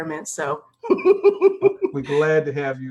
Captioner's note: chuckles